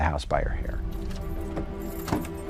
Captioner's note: car keys jingle; car door opens, slams shut